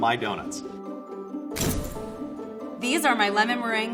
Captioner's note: camera snap